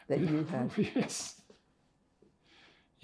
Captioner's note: laughing